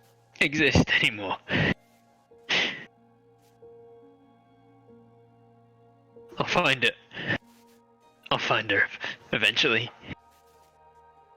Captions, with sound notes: exist anymore? (breath) I'll find her- I'll find her, eventually.